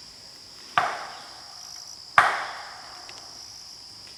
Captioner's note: tree knocks